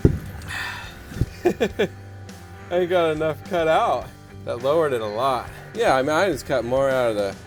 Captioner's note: laughs